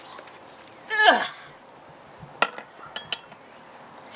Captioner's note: sighs